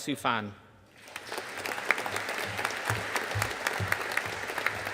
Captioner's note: audience applauding